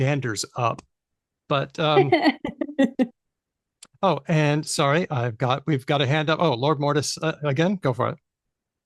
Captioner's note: laughs